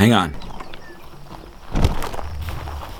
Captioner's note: footsteps backwards